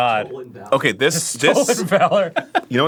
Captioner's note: laughing